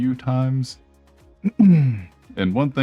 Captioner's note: clears throat